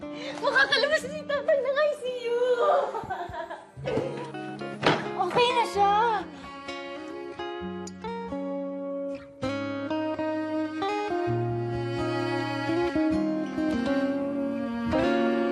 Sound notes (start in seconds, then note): 2.7 chuckles; 4.8 thumps